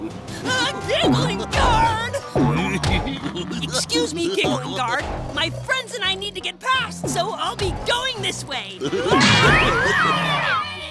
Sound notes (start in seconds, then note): 2.7 giggling